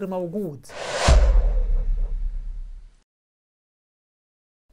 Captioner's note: sound effect